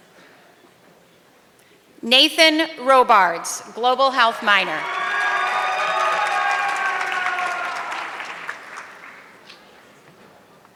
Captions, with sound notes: Nathan Robards, global health minor. (audience clapping)